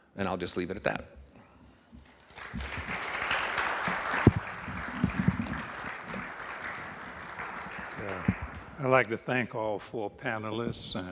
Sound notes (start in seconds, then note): 2.1 audience applauding; 2.1 panel applauding